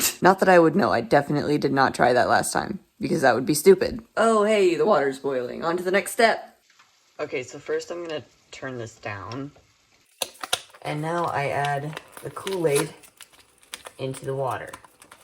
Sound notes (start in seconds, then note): 10.2 slap! Slap!